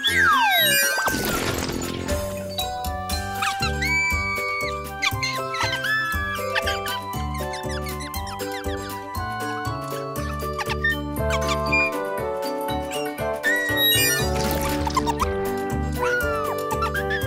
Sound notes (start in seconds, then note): 3.1 both giggling; 11.2 squeaking; 14.6 giggling